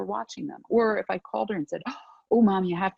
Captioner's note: gasps